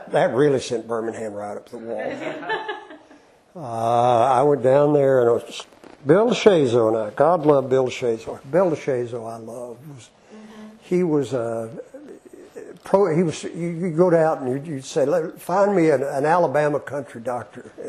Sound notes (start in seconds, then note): 2.0 laughter